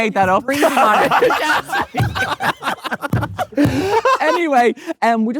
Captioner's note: group laughing